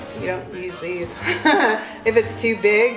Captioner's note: laughs